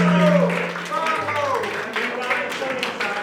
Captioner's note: applause